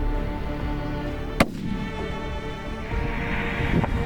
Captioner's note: gun shot